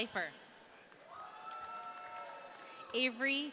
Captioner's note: audience cheering